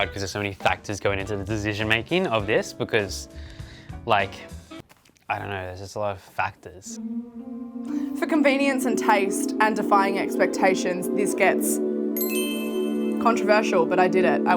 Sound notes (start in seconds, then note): 7.0 ominous music intensifies; 11.8 chime effect